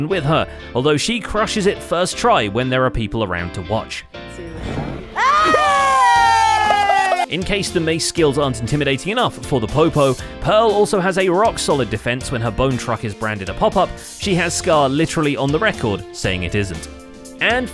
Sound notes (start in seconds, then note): 5.1 cheers